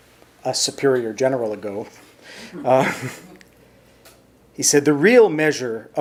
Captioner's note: chuckles